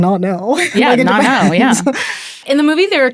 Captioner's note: laughs